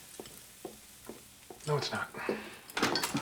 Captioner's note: sighing